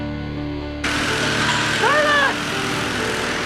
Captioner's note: tools whirring